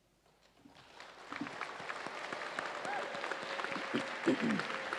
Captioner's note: audience applauds